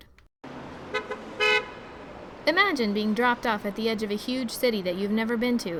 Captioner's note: city traffic